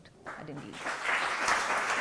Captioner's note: applause